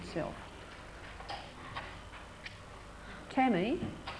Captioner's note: sound of typing